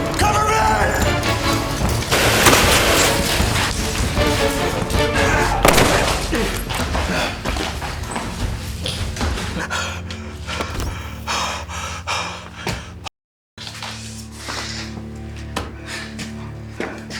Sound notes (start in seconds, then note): 2.1 rapid gunfire popping; 5.6 gunshot booming; 9.7 Anderson huffing; 13.6 somber music